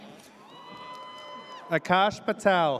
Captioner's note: audience cheers